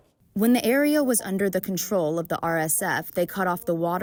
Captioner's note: through translator